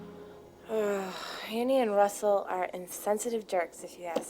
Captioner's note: groans